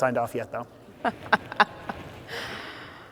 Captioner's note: laugh